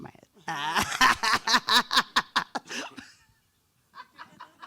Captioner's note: laughs